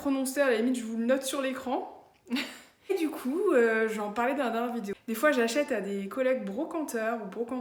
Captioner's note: laughs